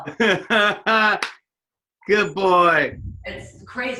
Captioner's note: laughs